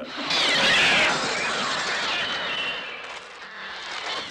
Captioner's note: birds screeching